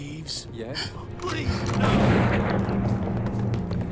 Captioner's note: gunfire pops